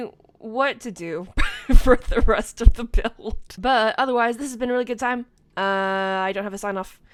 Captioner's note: laughing